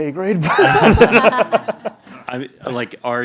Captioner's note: laughing